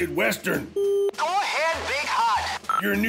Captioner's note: voice on radio